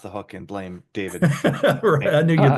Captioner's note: laughs